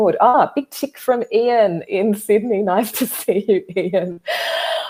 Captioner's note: chuckles